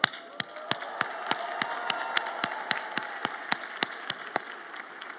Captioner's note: everyone cheers and applads